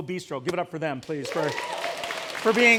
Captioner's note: applause, Cheers